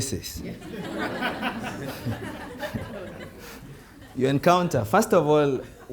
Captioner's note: audience laughing